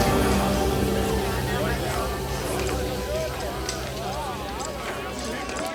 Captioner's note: townsfolk chatter